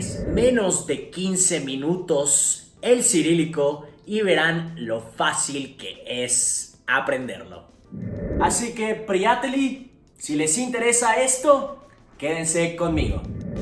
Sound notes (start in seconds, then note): 9.1 bulgarian